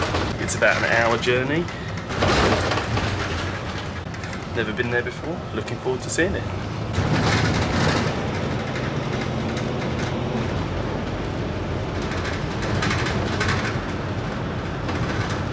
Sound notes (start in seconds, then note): 0.0 bus rattling; 4.4 bus rattling